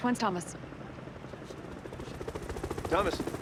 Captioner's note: helicopter whirrs